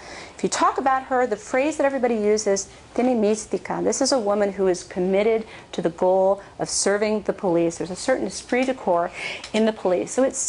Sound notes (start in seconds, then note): 2.5 spanish